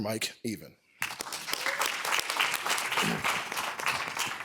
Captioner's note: applause